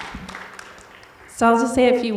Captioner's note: audience clapping